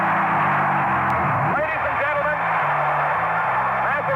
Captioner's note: cheers